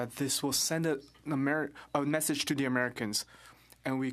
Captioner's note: speaking French